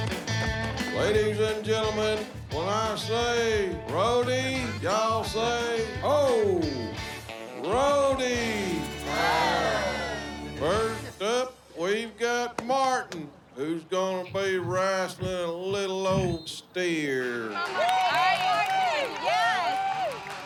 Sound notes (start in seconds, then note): 17.4 cheering